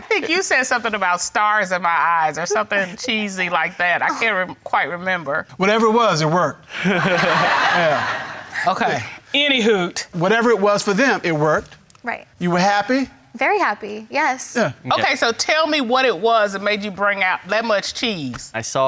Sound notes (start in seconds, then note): 6.8 everyone laughing